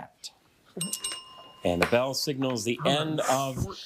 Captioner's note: bell ringing